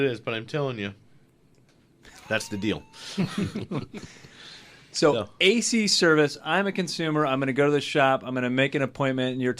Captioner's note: group laughs